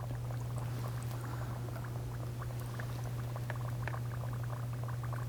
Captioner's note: water bubbles